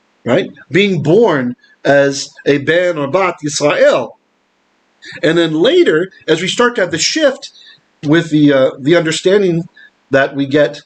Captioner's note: Hebrew